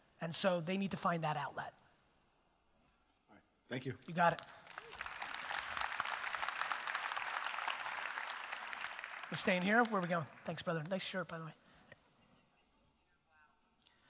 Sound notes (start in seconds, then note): 4.4 audience applause